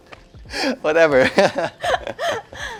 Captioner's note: laughs